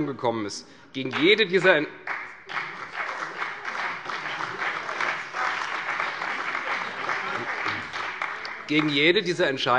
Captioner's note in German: Beifall bei der CDU und dem BÜNDNIS 90/DIE GRÜNEN